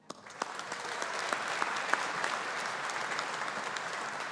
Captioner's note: audience applauding